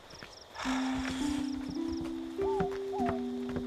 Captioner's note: Jess sighs; owl hooting